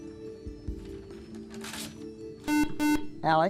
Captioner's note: buzzer